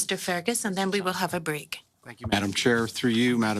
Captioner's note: speaking French